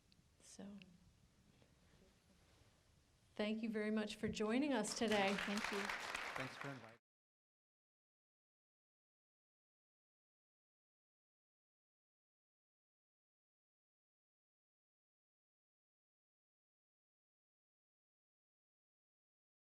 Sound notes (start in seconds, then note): 7.1 applause